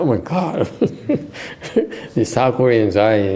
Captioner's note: laughter